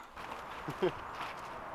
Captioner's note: laughs